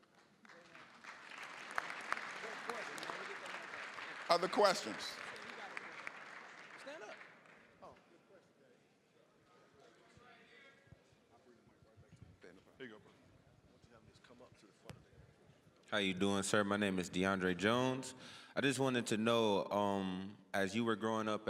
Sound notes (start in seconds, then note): 0.0 applause; 8.3 general chatter